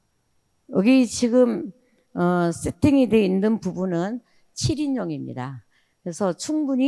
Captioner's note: speaking in foreign language